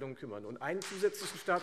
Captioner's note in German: Beifall Freie Demokraten